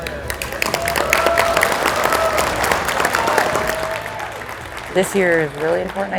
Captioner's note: applause